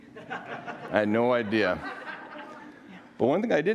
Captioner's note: audience laughing